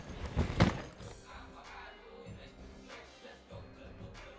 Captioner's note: bag thuds